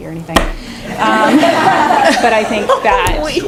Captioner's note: laughing